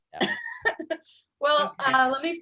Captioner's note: laughter